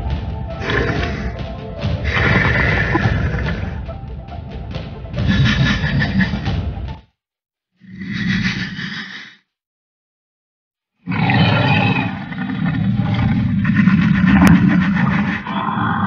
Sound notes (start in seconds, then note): 0.0 music intensifies; 4.2 Indominus Rex growling